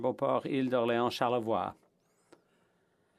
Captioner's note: speaking French